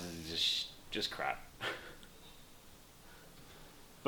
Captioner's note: laughs